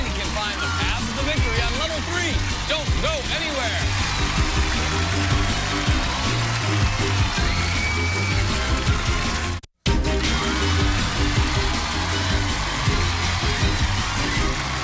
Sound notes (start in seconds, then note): 3.9 cheers and applause; 9.9 upbeat music